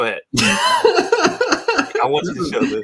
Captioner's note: laughs